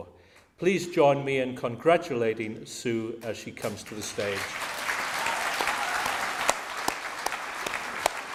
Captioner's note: audience claps